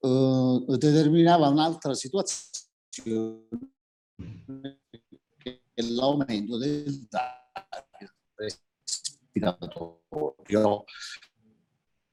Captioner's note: sound interference